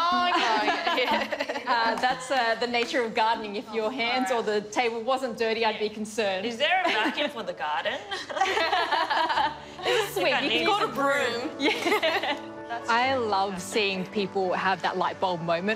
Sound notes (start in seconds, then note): 0.1 laughs; 7.8 women laugh; 11.3 laughs